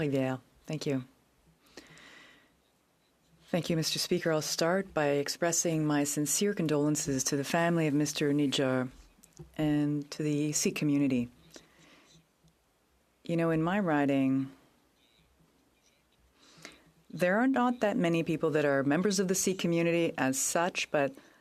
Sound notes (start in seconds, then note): 2.8 speaking in French